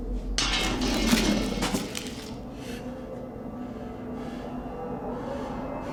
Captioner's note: metal rattling; eerie music